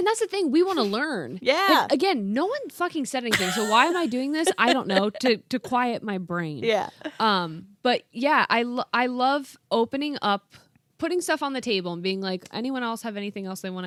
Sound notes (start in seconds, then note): 3.3 laughing